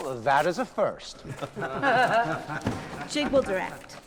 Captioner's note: laughing